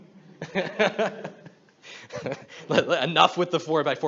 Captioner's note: he laughs